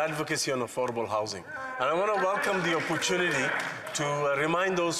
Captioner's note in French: voix de l'interprète